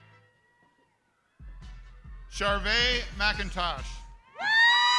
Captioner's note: crowd cheering